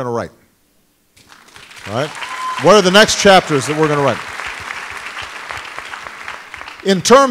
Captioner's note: applause